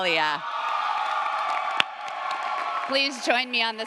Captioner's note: audience applauds & cheers